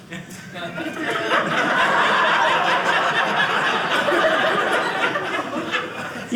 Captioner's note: audience laughing